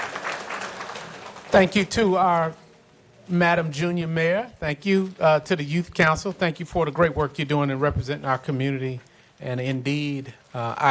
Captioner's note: applause